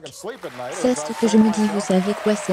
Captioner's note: audience applauding